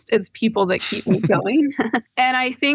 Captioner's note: laughter